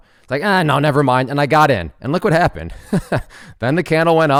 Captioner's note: chuckles